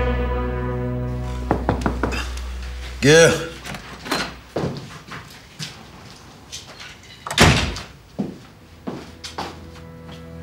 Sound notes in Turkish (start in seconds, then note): 1.5 kapı vurulur; 8.3 gerilim müziği